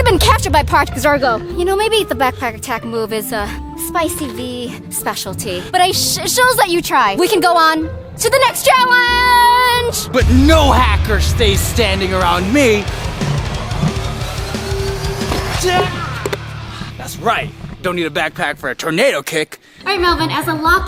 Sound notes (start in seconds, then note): 12.9 dramatic music; 15.7 yells